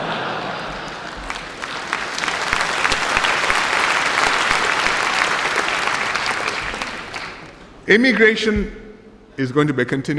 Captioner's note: laughter and applause